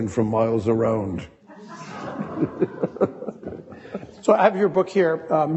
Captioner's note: audience laughing